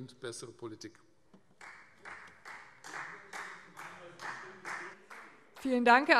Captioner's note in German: Beifall Freie Demokraten